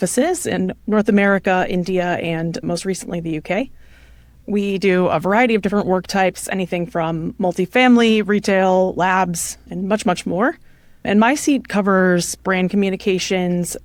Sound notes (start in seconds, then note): none